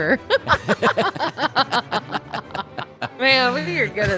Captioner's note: laughter